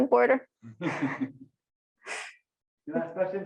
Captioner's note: laughs